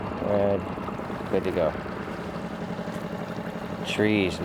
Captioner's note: motor droning